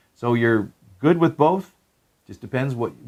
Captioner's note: none